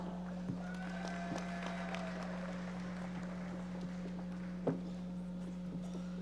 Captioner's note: audience members applauding